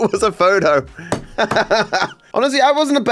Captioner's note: laughs